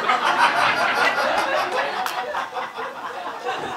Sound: laughter

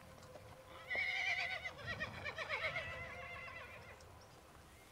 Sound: horses whinnying

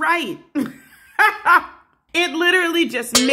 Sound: laughter

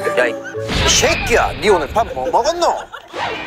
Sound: sudden acceleration

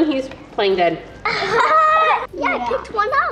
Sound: surprised laughing

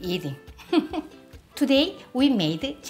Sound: laughs

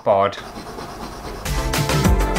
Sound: scratchy Sounds; intro Music

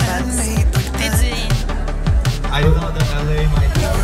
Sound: speaks faintly

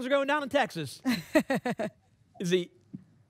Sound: laughs

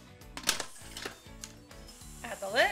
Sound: pressure cooker beeping

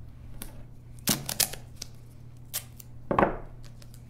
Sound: tape ripping

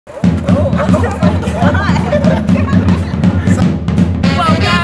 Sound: jazzy drum beat; laughing

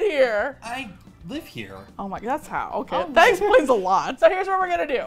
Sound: laughs

